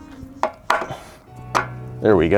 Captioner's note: grunts